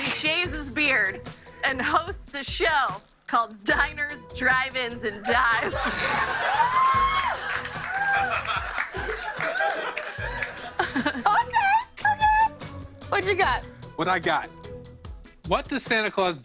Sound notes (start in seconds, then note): 5.2 laughter